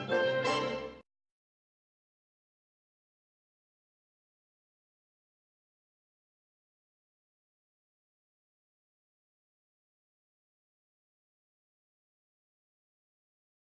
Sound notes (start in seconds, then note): 2.0 silence